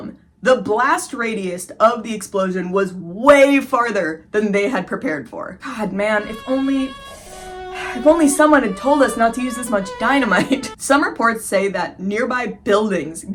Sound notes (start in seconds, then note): 6.2 sad violin; 7.0 sharp inhale; 7.9 sigh